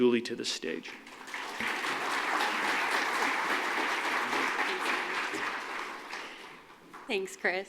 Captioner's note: applause